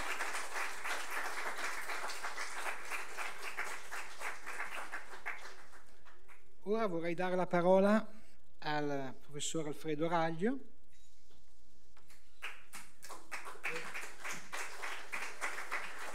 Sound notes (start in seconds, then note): 2.8 applause